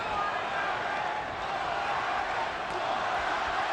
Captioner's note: audience chanting "morales!"